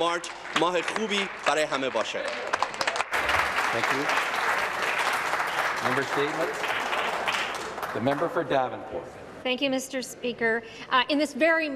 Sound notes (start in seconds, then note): 4.8 speaking Alternate Language; 5.5 applause